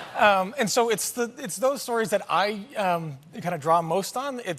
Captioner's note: laughter